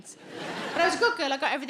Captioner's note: audience laughs